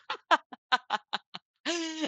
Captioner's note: laughs